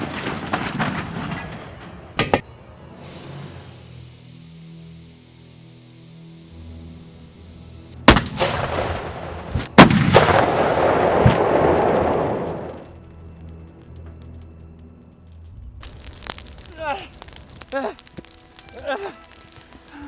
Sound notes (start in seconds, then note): 0.0 crashing; 3.0 hissing; 8.0 booming; 16.6 groaning